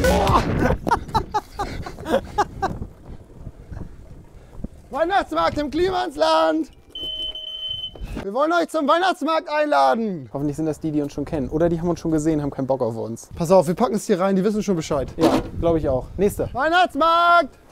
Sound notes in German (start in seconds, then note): 0.0 Lachen; 6.8 Türklingel